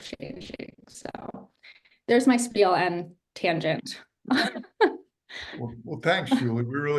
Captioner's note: chuckles